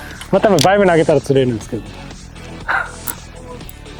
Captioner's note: laughs